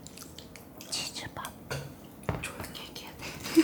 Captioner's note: whispering